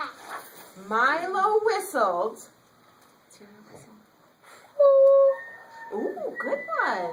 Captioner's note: children whistle in background